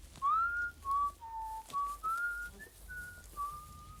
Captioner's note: whistles